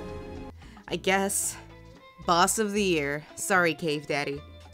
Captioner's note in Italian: voce fuori campo